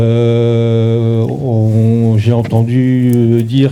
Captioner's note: speaking in French